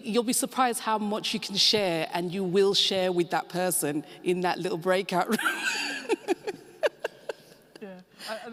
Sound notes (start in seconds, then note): 5.7 laughing